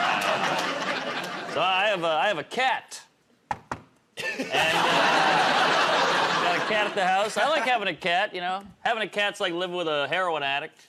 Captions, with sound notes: -So, I have a cat. [ Knocks on table ] And a... Got a cat at the house. I like having a cat, you know. Having a cat's like living with a heroin addict.